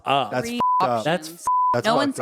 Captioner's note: beep